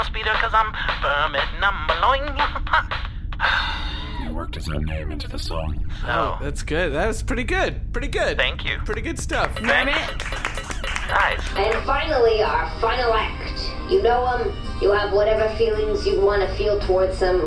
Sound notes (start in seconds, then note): 9.4 applause